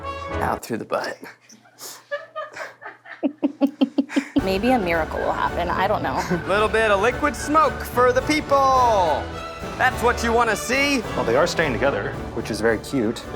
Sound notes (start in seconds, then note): 1.3 laughing